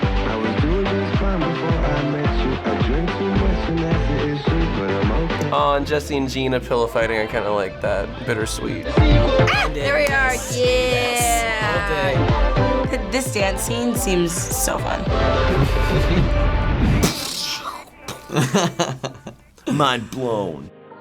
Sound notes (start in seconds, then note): 15.1 chuckling; 15.2 imitates explosion; 16.9 laughs